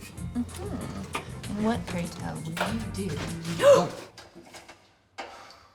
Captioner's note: gasps